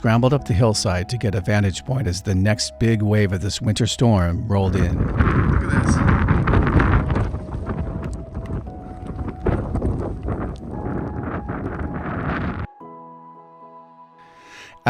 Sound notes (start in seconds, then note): 5.5 wind over microphone